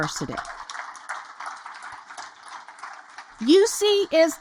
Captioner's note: audience applaud